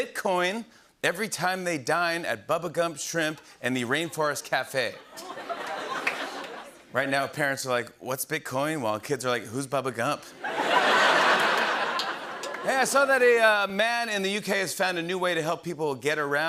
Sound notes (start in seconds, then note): 4.7 laughter and applause; 10.4 laughter and applause